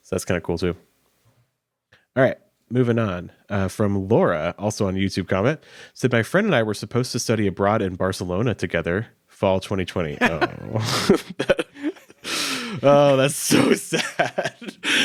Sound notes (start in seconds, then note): 10.1 chuckles; 10.1 laughing